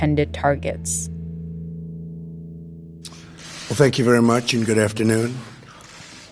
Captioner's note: soundbite of archived recording